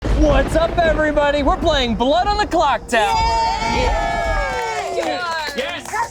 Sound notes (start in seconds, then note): 0.0 thunder crashing; 3.0 group cheering and clapping